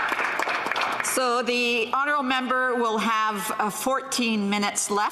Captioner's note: some Applause